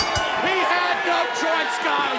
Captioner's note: bell ringing